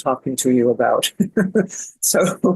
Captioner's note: laughs